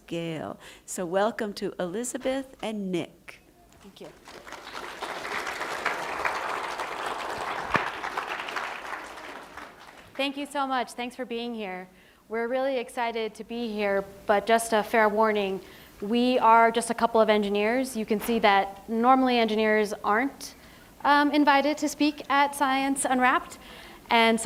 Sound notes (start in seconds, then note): 10.7 applause